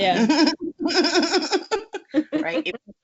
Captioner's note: laughs